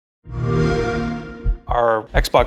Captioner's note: xbox sound